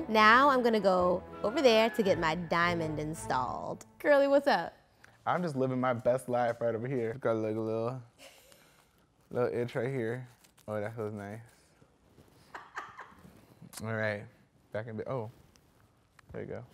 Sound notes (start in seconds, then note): 12.6 laughs